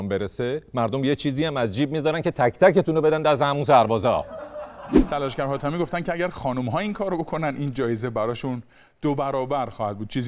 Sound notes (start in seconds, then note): 4.1 laughter